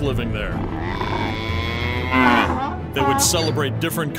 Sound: cow moos

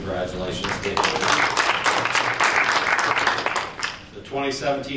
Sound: applause

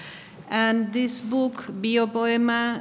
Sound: speaking in a foreign language

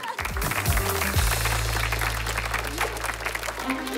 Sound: clapping

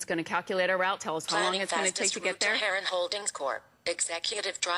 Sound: electronic voice

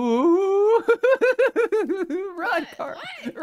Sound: laughing

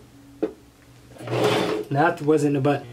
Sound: sewing machine

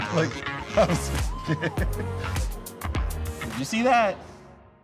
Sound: laughing

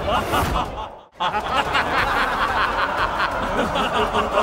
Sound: laughs

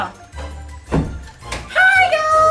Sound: door closes

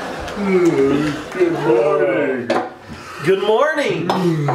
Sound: audience laughing; yawning

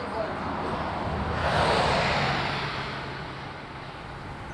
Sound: car whooshing past

